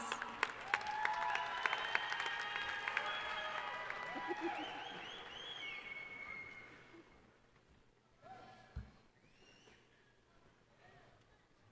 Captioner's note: applause